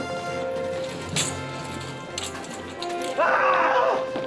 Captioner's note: screaming